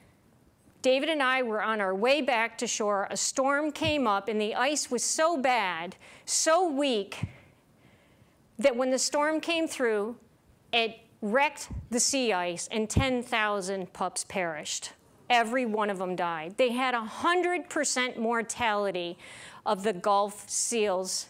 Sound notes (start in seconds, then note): 7.3 deep breath in